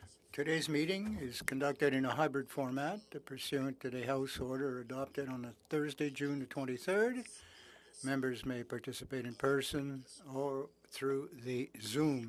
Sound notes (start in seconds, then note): 3.3 speaking french